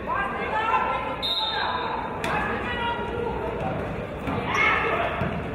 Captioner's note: referee's whistle